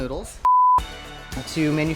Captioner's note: beeping